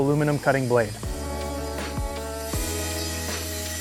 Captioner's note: saw buzzing; mellow music